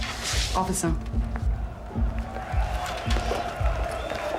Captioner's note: crowd cheers in distance